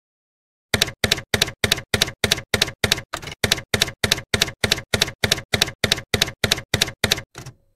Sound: typewriter keys clacking

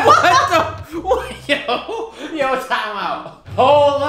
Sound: laughs

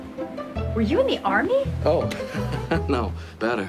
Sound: chuckles

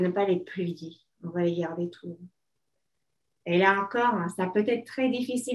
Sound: speaking French

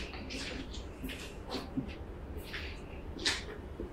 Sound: footsteps

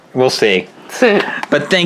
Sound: laughing

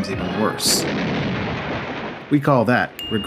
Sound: boom from Cartoon

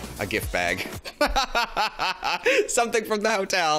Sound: laughs

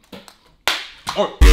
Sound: smack

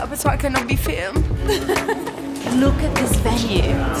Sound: laughs

